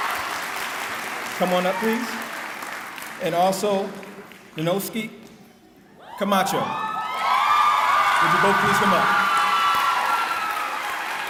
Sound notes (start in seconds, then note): 6.0 cheering; 11.0 clapping